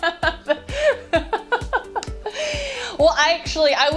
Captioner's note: laughs